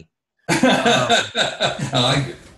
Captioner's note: laughs